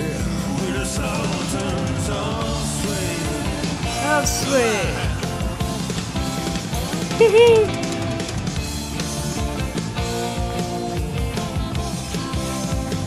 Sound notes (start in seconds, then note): 5.2 upbeat rock music; 7.1 laughs; 8.5 upbeat rock music